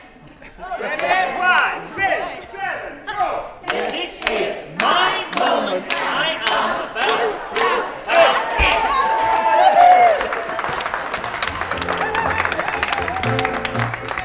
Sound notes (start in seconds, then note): 9.2 cheering